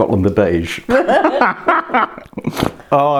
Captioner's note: cackles